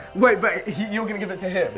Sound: none

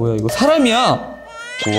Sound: crying

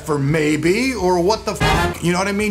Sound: blares

